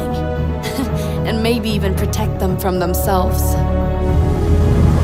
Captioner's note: chuckles